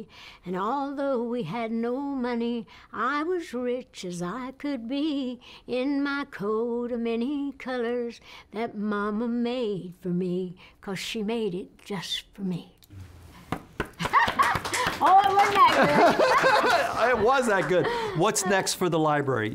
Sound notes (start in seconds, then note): 13.8 applause; 14.0 laughs; 15.5 laughter